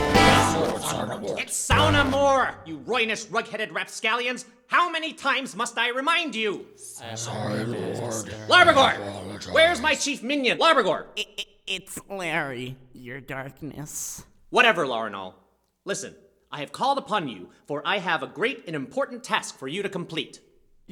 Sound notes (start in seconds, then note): 4.1 Minions mumble apologies